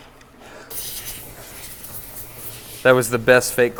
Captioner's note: compressed air nozzle sounds